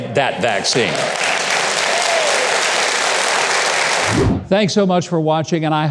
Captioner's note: audience applause